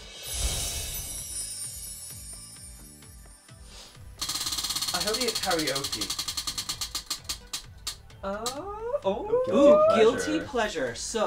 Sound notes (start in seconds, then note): 0.2 twinkling music; 4.2 roulette spinning